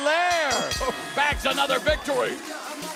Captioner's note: bell ringing